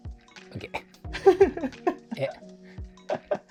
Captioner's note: laughing